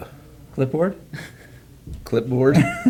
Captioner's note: all laugh; woman laughs